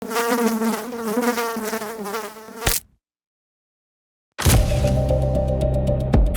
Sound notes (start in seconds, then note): 0.0 fly buzzing; 2.0 fly splatting; 4.5 ominous sci-fi music